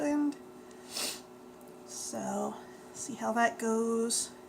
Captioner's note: sniffs